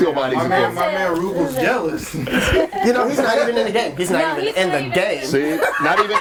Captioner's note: overlapping chatter and laughter; laughs hysterically